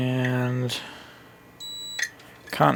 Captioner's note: beep!